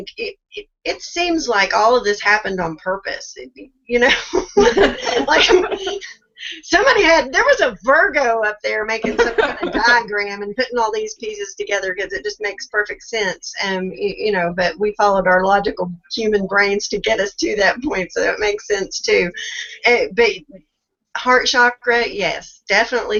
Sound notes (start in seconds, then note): 7.1 laughs; 9.0 laughs